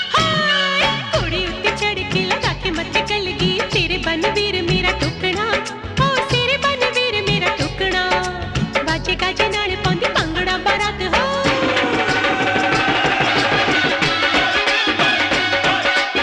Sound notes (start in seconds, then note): none